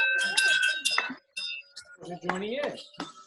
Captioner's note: bells chime; clapping